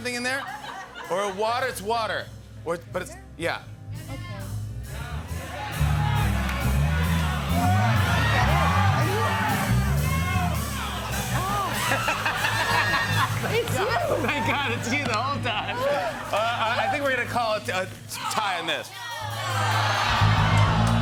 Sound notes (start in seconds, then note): 0.2 laughter; 6.5 cheering; 11.1 laughter